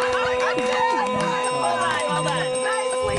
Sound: spanish being spoken

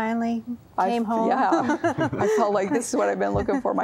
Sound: laughter

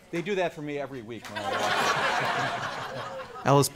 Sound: laughing

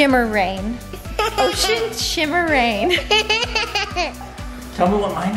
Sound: laughs

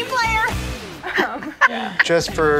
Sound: laughing; laughs

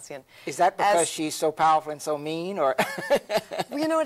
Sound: laughs

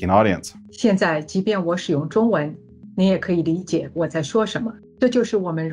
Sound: speaking Mandarin Chinese

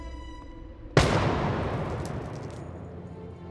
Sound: gun firing

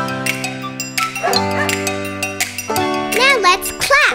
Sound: Bingo barks

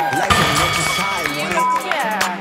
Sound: bell dings

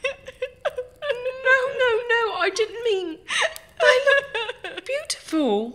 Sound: cries

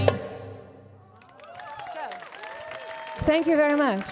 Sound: audience cheering; audience clapping

